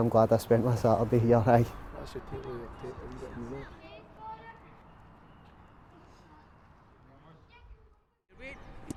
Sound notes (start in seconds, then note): 2.4 speaking faintly